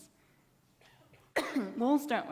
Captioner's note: coughs